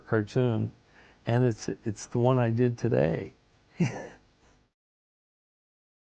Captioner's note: chuckles